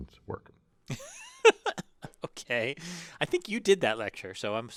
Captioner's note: laugh